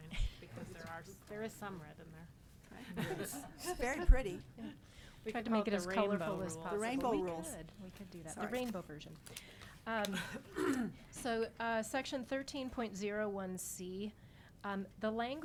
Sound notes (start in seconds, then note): 2.8 all chuckling